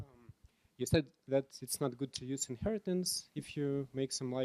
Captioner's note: voiceover